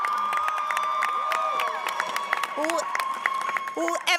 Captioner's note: cheers and applause